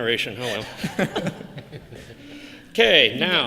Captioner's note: laughter